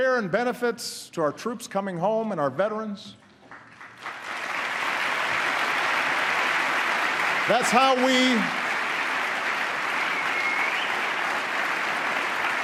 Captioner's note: applause